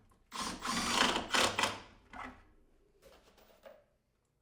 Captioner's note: drill whirring